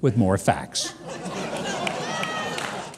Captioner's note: audience laughs